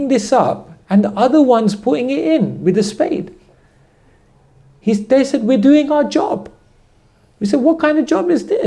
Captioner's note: none